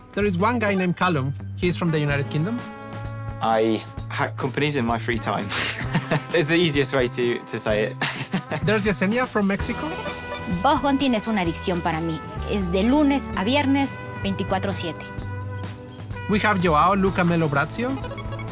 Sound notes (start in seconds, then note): 5.5 laughs; 8.1 laughs; 10.2 speaks in Spanish